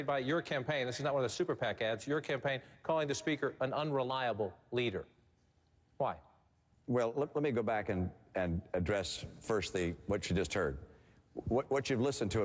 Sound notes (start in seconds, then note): none